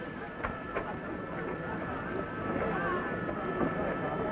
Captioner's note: people chattering